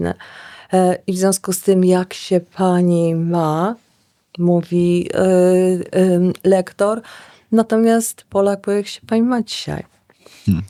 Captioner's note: slowly and clearly